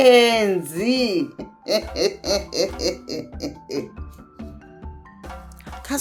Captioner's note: laughs